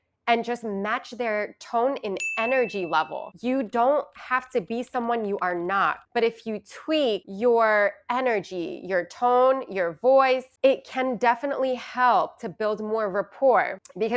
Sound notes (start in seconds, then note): 2.2 bell ringing